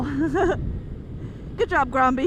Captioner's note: laughs